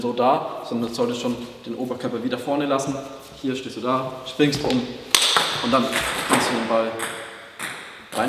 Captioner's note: bang